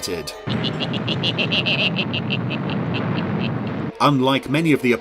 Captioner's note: wicked chuckling